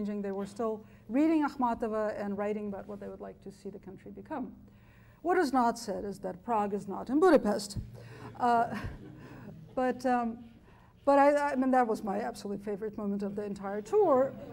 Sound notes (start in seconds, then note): 8.7 chuckling; 14.3 chuckling